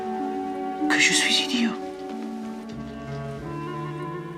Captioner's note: Whispering in French; 法语